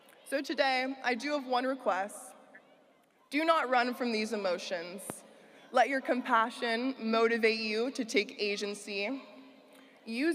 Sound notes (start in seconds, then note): none